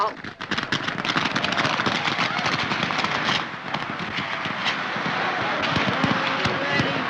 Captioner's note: booming fireworks; crowd shouting